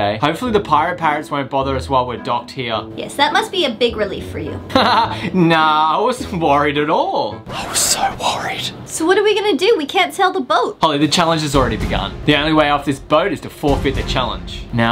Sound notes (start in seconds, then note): 4.7 laughs; 7.6 whispered